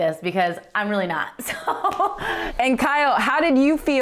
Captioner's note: laughing